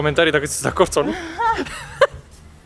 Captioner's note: laughing